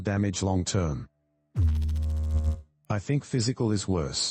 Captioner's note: electrical noise